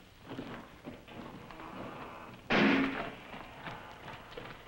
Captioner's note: slam